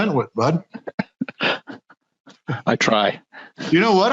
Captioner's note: laughs